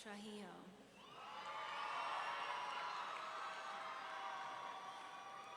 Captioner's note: audience cheering